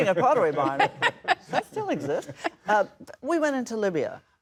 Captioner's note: laughs